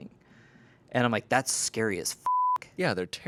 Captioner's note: beep